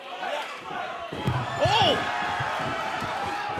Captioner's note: fans chanting